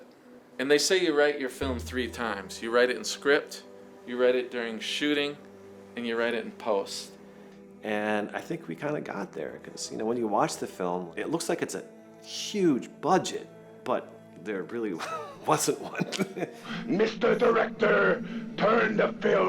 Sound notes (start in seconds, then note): 15.9 laughs